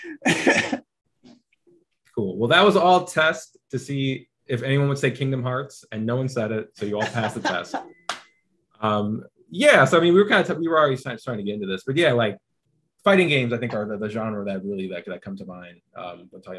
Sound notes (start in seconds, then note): 0.0 chuckling; 6.8 laughing